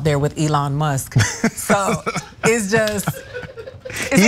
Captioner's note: laugh